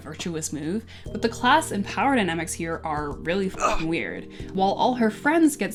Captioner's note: grunt